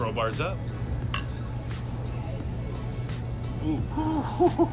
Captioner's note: glasses tapping